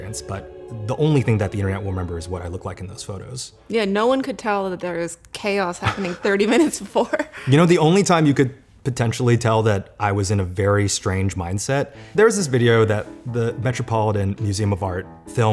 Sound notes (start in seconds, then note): 5.8 laughs